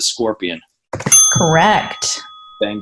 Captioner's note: ding